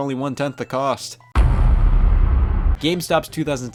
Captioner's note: heavy thud